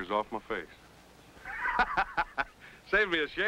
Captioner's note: laughing